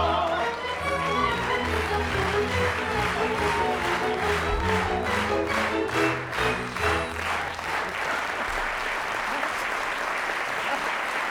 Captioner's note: applause